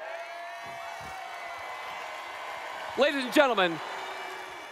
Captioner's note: cheering